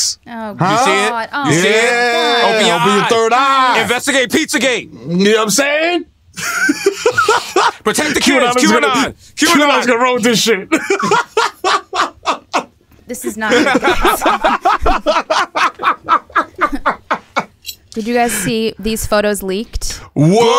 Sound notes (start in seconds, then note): 13.2 laughter